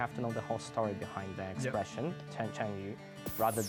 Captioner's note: in Mandarin